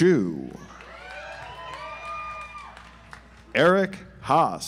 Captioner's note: audience applauds